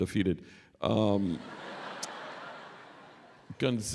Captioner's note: laughter